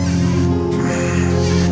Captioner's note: exhales